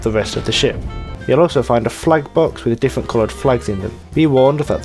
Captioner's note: explosion